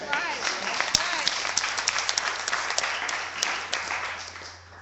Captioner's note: clapping